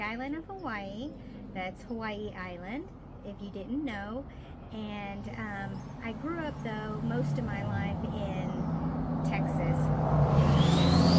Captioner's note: loud car passing